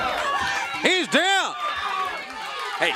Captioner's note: crowd cheering